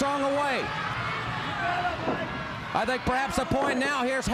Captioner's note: crowd chatter